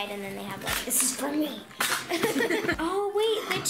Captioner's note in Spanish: Ambos ríen